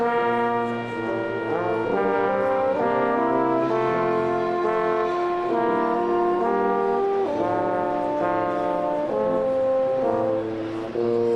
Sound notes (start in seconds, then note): none